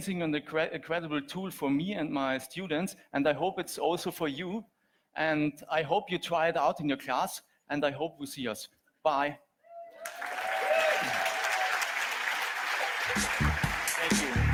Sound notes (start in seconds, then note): 9.7 audience cheers; 10.0 audience applauds; 12.9 upbeat music